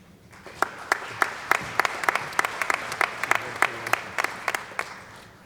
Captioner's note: applause